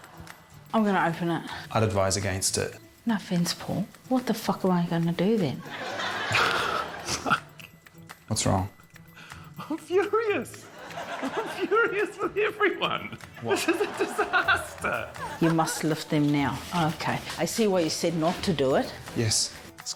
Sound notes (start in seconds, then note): 5.6 laughs